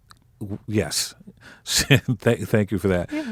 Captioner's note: laughing